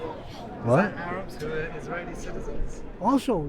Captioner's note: voiceover